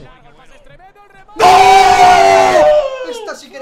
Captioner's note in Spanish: gritan